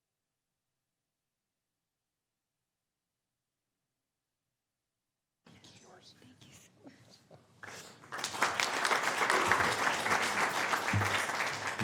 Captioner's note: applause